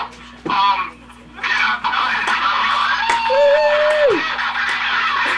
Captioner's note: cheering